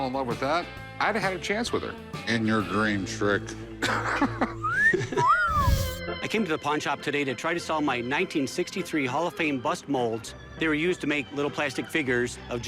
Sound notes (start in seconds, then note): 3.8 laughter; 4.6 whistling